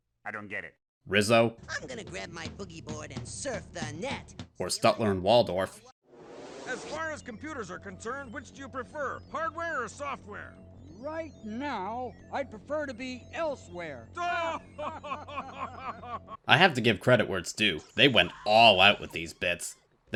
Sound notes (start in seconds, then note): 14.2 Statler and Waldorf laugh